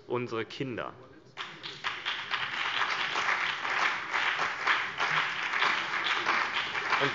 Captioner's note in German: Beifall CDU und BÜNDNIS 90/DIE GRÜNEN, vereinzelt SPD und DIE LINKE